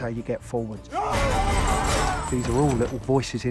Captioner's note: yelling